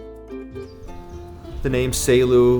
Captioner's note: birds chirp